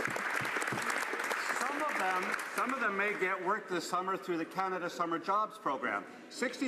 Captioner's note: applause